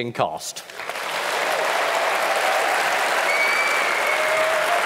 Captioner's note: cheering, applause and whistling